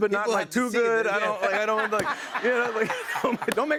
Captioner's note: laughter